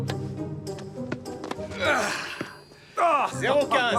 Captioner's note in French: grogne bruyamment